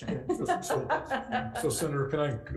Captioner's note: laughing